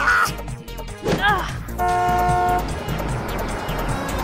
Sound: car honks

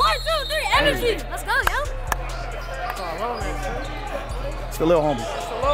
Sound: claps; overlapping chattering

